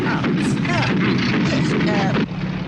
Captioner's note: engine sputters